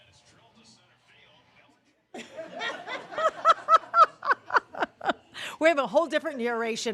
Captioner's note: laughter